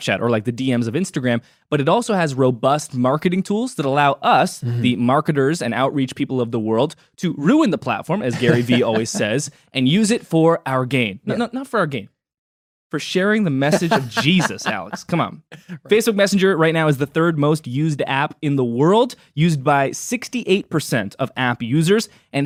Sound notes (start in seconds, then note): 13.6 laughs